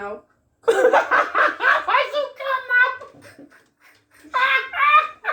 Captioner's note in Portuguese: risos; Risos